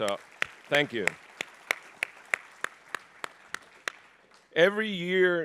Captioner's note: applause